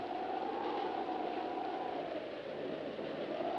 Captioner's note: wind howling